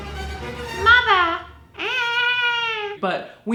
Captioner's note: fast violin music; baby voice; cries